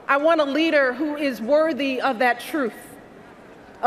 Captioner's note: none